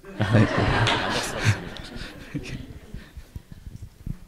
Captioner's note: audience laugher